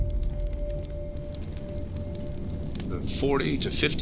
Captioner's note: crackling fire